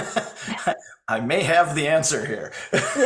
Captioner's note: laughs